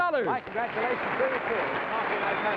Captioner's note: audience cheers